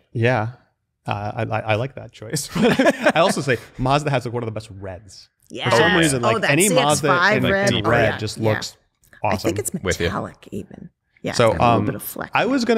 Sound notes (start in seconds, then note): 2.4 laughter